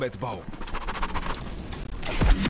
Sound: vigorously panting

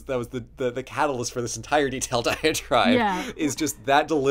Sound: laughing

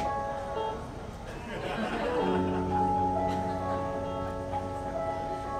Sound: relaxing music; audience laughing

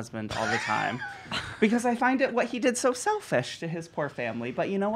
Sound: laughing

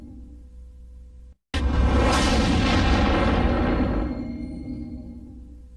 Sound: dramatic sounds continuing

